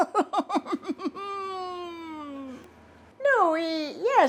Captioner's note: laughing